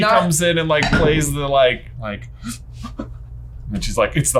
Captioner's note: gasps